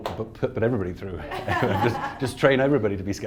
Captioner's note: laughs